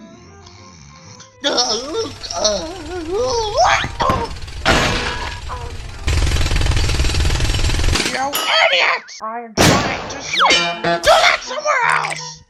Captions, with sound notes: *snoring* G'uuuhhhh!!! Uuuugggghhh!! Woooooo..uuuaagghh!!! Oof! Aaahhh...uuuggghh! *Jackhammer* You idiots! I'm trying to SLEEP! DO THAT SOMEWHERE ELSE!